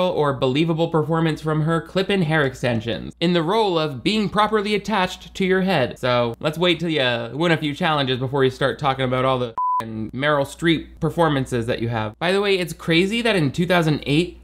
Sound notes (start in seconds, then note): 9.5 beep